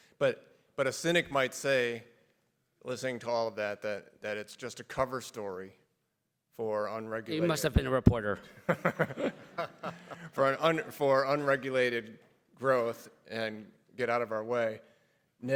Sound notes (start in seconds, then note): 8.6 everybody laughs; 8.7 laughs